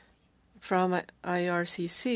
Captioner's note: speaking french